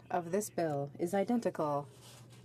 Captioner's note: speaking French